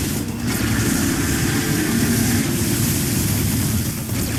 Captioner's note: intense dramatic music; laser blasting